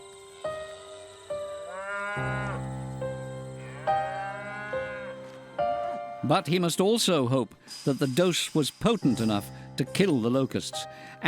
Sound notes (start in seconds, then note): 3.5 cows mooing